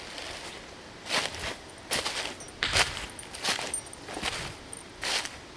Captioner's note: fire crackles; leaves crunching